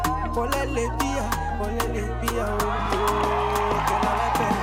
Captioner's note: cheering and applauding